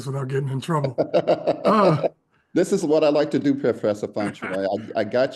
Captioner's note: laugh